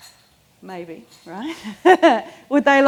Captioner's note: laughs